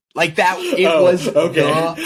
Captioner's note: laughing